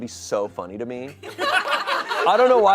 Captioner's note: audience laughing